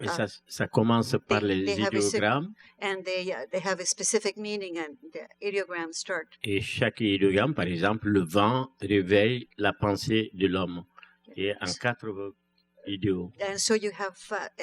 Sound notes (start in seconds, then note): 1.4 speaking french; 7.4 speaking french